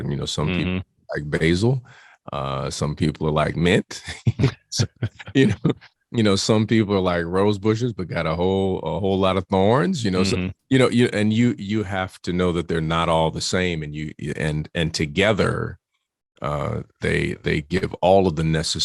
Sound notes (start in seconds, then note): 3.9 both laugh